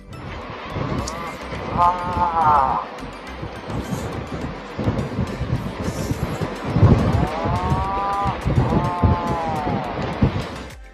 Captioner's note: atlantic Puffin calls